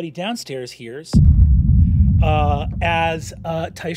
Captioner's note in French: grondement fort